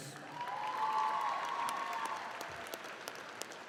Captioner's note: all clapping